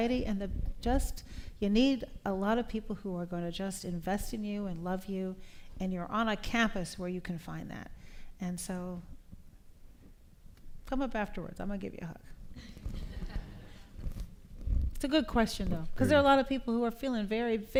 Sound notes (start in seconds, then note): 12.8 laughter